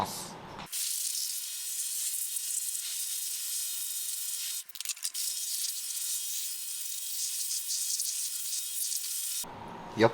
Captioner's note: shower sound